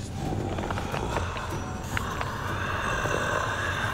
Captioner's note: mummy growling